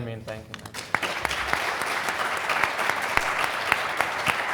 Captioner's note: everyone applauding